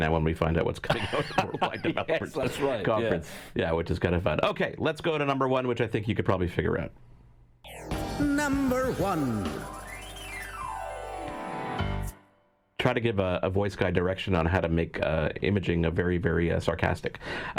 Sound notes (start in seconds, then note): 0.8 laughing; 7.7 bright music